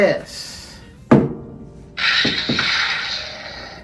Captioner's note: gadget rumbling